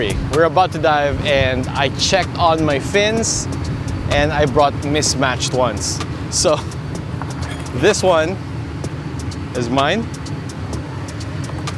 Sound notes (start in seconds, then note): 0.0 upbeat music continues; 7.2 chuckles